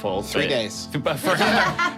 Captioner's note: group laughing